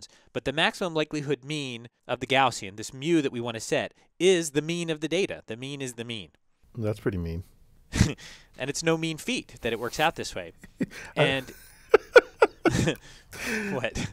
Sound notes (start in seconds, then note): 10.6 laugh